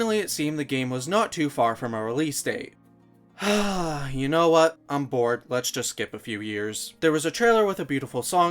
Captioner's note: sigh